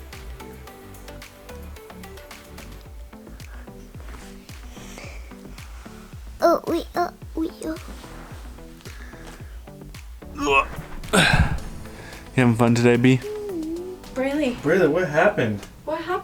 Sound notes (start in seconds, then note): 6.5 babbles; 10.3 grunts